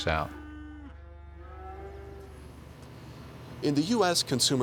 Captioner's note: cows mooing